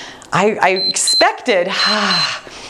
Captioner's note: timer beeps